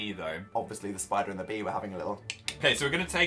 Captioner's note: suggestive click click